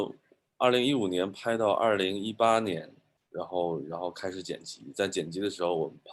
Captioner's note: speaking in foreign language